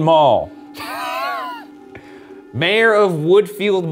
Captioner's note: chuckling